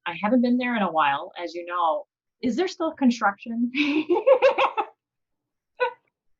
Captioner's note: laughs